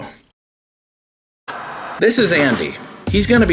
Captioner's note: TV static